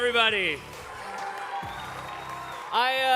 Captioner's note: cheering